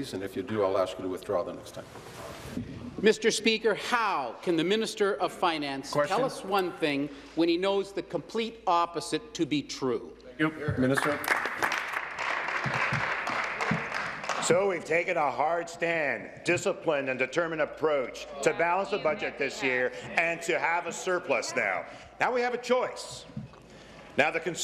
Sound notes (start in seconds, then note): 15.7 applause